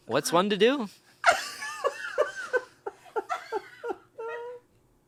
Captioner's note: laughs